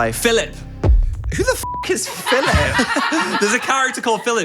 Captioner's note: beep